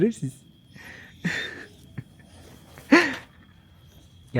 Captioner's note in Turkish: kahkaha